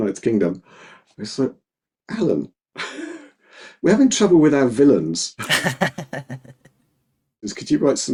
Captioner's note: both laughing